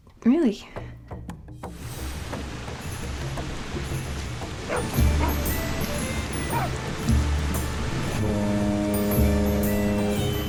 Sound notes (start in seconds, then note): 4.6 dogs barking; 8.6 boat horn